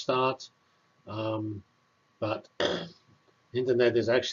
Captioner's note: cough